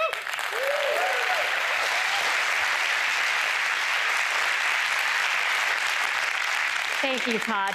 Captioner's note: applause